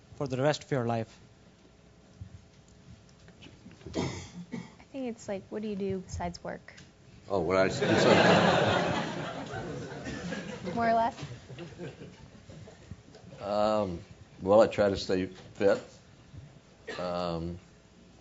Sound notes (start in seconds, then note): 7.7 laugh